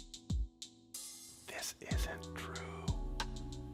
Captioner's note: whispering